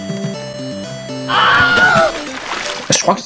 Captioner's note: Wilhelm scream